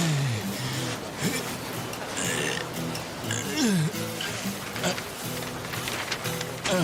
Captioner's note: grunting and groaning